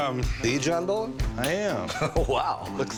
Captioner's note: chuckles